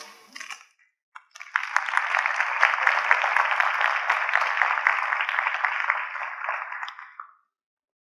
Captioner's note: applause